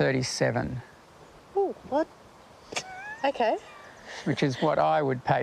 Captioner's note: laughs